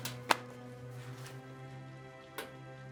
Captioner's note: dark ominous music continues; folder thuds; dark ominous music continues